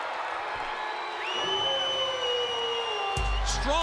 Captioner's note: crowd cheering; crowd chatter